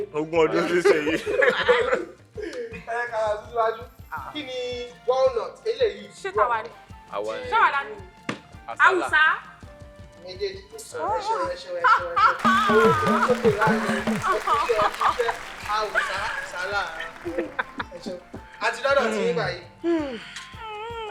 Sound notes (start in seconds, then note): 0.8 laughs; 12.3 laughs